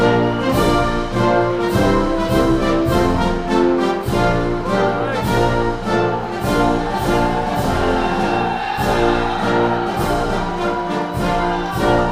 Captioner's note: applause